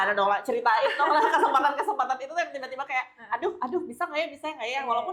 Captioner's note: laughs